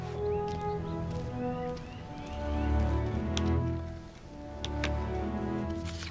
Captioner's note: birds chirping; light music